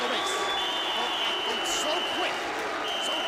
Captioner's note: applause